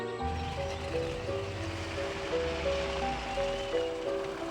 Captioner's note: bird squawks in distance; dramatic music